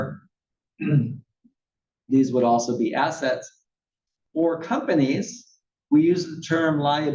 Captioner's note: cough